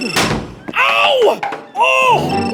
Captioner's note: ringing Continues; thud!